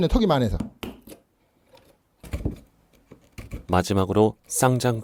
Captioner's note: chiseling sound